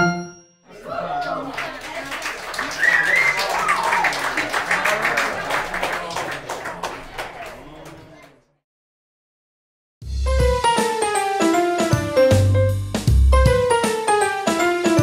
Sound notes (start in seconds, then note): 0.8 applauding and cheering; 10.1 upbeat music